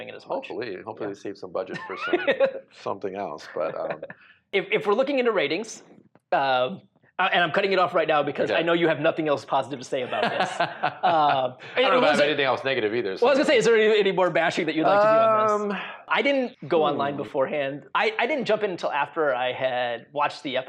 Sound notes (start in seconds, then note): 10.0 laughs